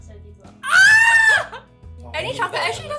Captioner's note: shrieks